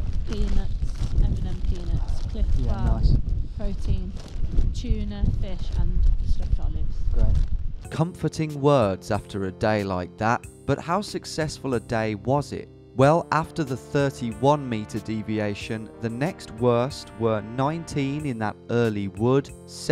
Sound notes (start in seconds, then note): 8.0 voiceover